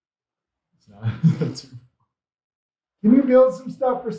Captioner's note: laughs